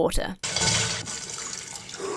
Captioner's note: ice tinkling; water dripping; exhales sharply